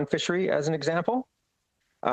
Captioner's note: speaking French